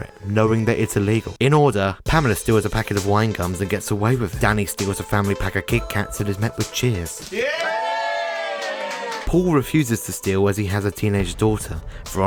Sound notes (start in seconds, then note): 7.3 cheering